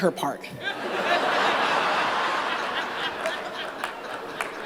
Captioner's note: laughter